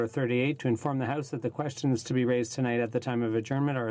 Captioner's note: speaking in French